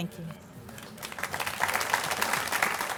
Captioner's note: audience applause